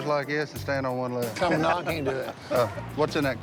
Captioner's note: laughs